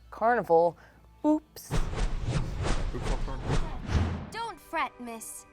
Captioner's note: whooshing transition